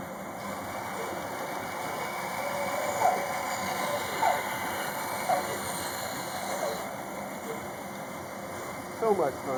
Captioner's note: band saw cutting